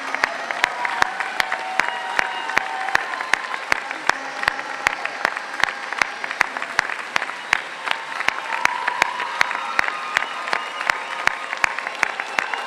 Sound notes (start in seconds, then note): 0.0 cheers and Applause